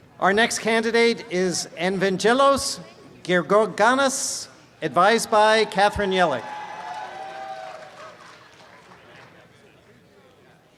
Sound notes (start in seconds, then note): 6.3 audience applause